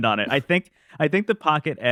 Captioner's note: laughs